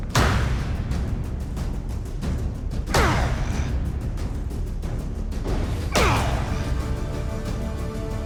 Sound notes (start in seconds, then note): 2.9 grunt; 5.9 grunt